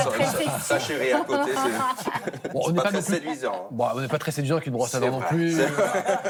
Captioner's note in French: rires